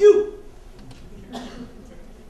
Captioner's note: audience laughter